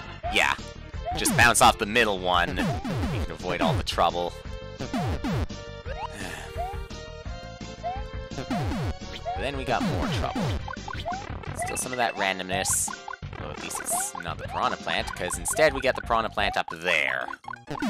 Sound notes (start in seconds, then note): 6.0 sigh